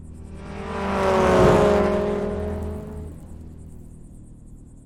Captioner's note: car engine rumbling